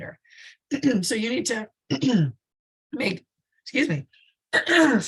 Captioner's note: clears throat